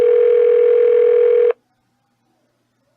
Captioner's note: phone still ringing